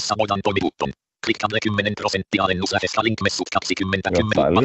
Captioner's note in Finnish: ruudunlukijan puhetta